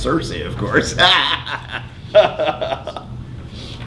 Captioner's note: laughing